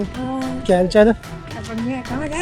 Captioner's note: speaking in foreign language